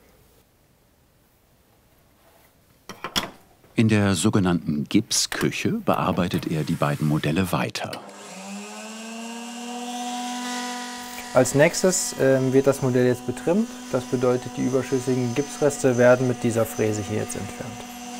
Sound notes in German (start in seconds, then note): 8.2 Bohrgeräusche